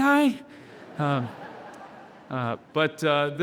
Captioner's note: audience laughing